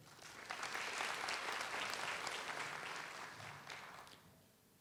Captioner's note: audience applauds